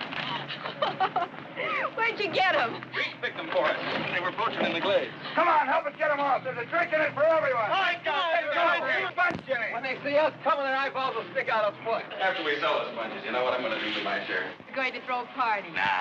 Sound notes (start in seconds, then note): 0.2 both laughing; 7.9 men chattering